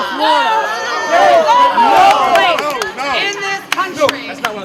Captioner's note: cheering